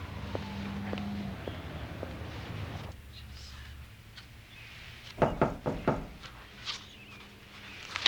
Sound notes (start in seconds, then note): 5.2 knock at door